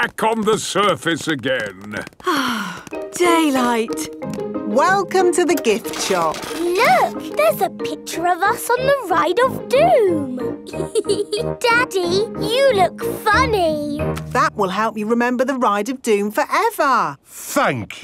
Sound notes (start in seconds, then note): 2.2 sighs